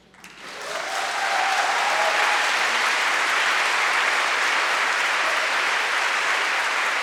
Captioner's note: crowd clapping; crowd cheering